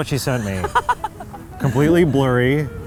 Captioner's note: laughs